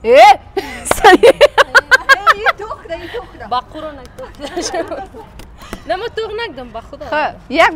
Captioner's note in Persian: خنده